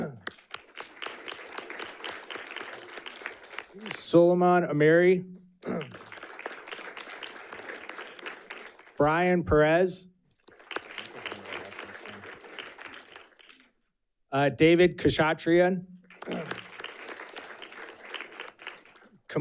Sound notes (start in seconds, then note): 0.0 audience clapping; 5.6 audience clapping; 16.0 audience clapping